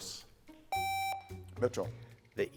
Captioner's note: buzzer beeps